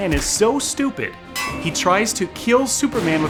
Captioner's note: steel clanks